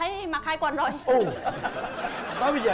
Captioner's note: laughing